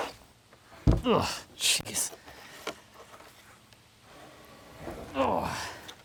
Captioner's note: slab scrapping; slab thumping